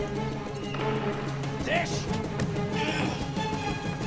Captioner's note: door opens